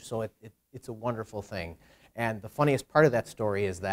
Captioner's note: none